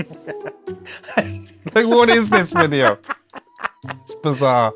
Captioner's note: laughs